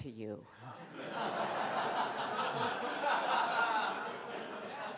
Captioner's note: crowd laughing